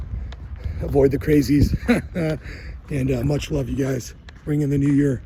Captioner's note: laughs